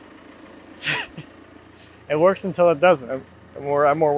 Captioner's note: chuckles